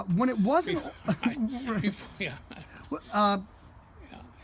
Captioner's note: laughs